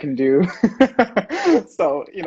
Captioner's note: laughs